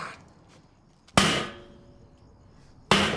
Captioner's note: bangs